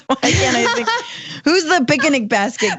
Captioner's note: laugh